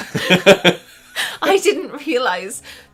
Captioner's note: they laugh